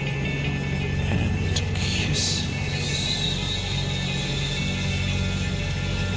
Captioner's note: male Voice